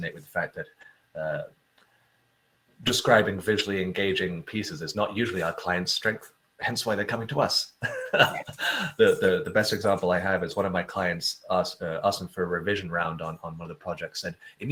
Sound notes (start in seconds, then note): 7.8 laughs